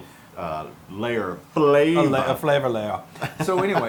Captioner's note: laugh